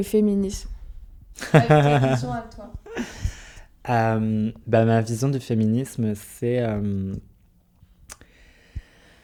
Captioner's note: laughs